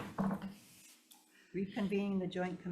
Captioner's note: gravel bangs